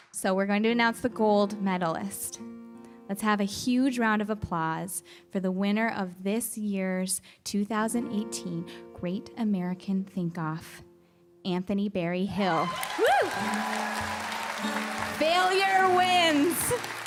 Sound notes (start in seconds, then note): 12.5 applause